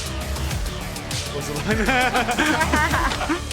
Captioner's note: laughing; both laughing